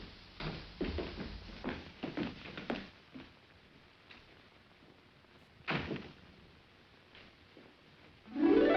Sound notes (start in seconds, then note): 5.4 door closes